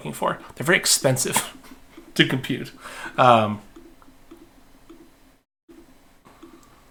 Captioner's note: chuckling